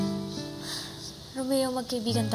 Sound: sighs deeply

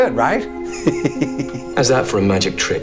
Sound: chuckles

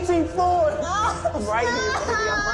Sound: Bebe sobs

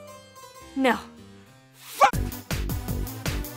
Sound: yelling; upbeat techno music

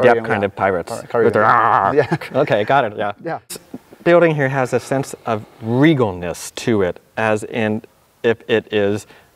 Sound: laughs

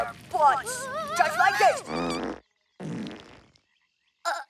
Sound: farting

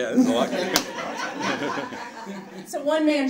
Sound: audience laughing

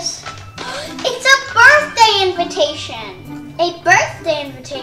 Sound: gasps

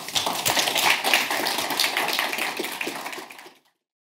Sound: audience applauds

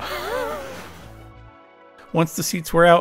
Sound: chuckles

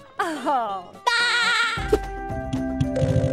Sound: laughing

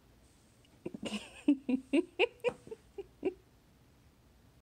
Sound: laughing

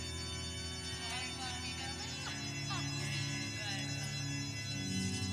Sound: crowd chattering

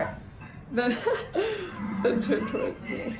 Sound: laughter

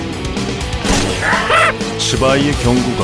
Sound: happy square head noises

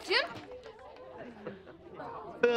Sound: chuckles

